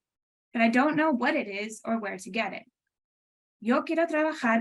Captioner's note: speaking Spanish